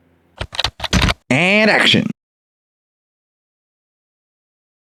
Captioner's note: typing